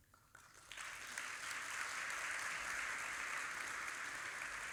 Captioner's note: audience applauding